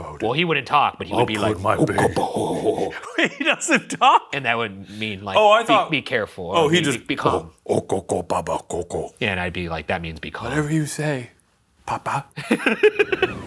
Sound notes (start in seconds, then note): 1.6 imitates muttering; 12.3 laughs